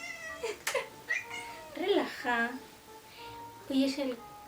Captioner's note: Midna squeaking and me laughing